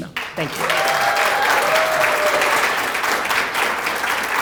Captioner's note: applause